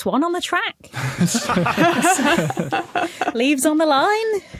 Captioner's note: group laughing